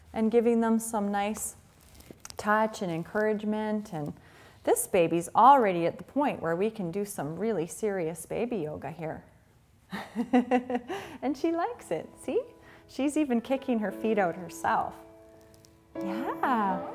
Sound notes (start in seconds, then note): 10.0 laughing